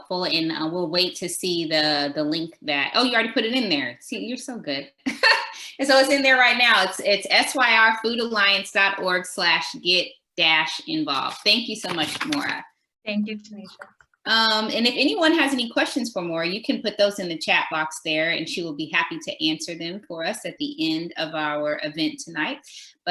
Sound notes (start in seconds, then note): 5.3 laughs